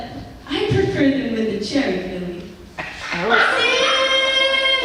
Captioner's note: laughs